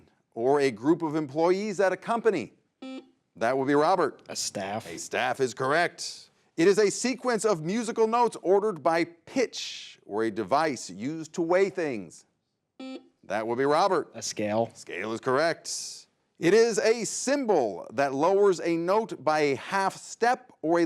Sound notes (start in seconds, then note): 2.8 buzzer buzzes; 12.8 buzzer buzzes